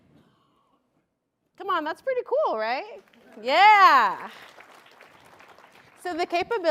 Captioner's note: applause